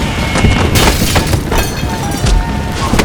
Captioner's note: glass window shatters